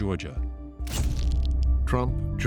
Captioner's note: flash bulb pops